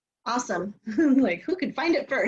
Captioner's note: laughter